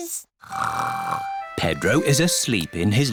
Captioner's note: snores